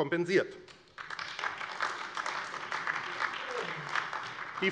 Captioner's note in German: Beifall AfD